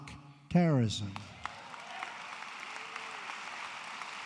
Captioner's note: applause